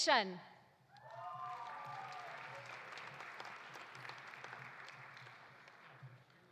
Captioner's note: audience cheering; audience applauding